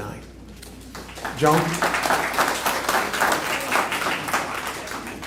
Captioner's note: applause